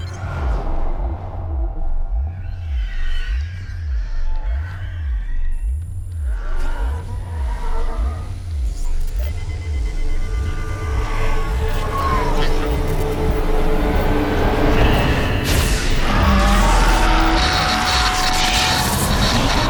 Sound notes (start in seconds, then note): 0.1 demonically screeching; 0.1 whooshing eerily; 7.0 electricity sizzling; 7.0 ghostly voices overlapping; 12.5 Dexter mutters; 14.5 startling music; 16.6 static crackling